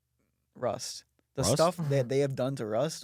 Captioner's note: laughs